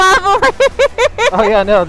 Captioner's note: laughing